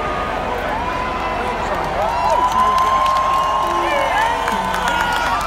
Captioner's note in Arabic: الحشد الهتاف والتصفيق